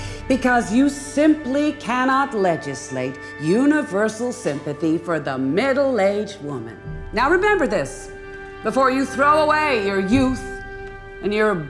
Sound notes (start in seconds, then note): none